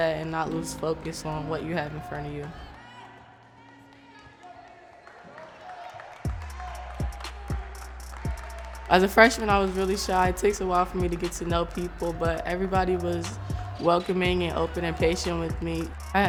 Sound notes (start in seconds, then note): 2.8 voices speaking; 6.1 upbeat music